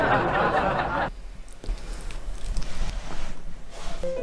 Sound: GGONI swallows its throat because it's uncomfortable

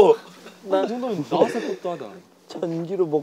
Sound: sobbing

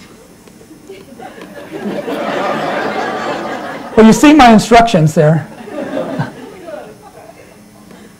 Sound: laughter

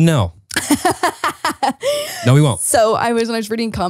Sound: laughing

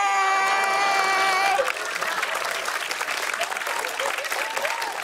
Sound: laughter and applause

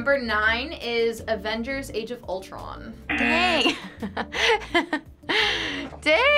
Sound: chuckles

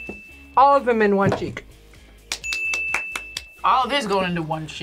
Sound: bell rings; bell rings

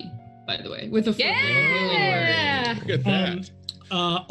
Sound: group cheers

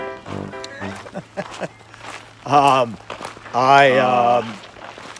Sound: Eugene laughing

